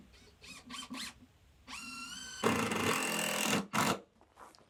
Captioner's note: drill whirring